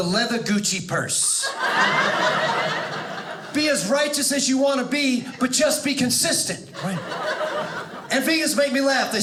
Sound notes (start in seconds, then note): 1.4 audience laughing